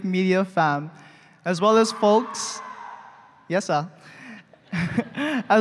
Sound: loud cheer

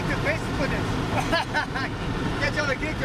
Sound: laughs

